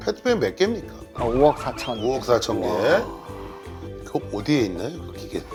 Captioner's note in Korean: 감탄